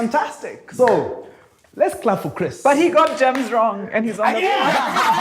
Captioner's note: laughs